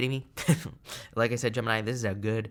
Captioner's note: chuckles